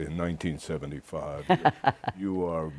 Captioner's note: laughter